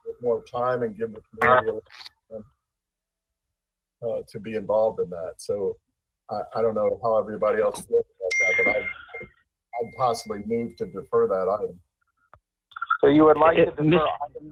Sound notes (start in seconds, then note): 9.7 ~interference~; 12.7 ~interference~